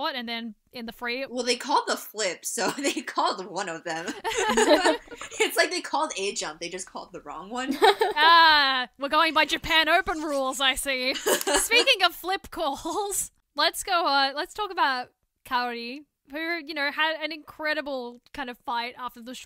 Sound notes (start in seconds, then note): 4.0 all laugh